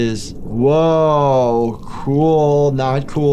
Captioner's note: none